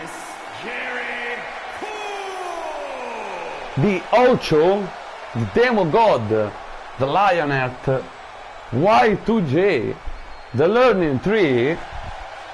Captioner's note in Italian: Applauso